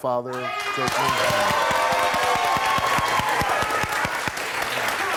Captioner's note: audience cheering